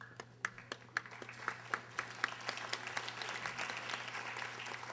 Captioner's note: audience applauding